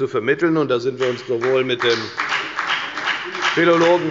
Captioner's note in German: Beifall bei der FDP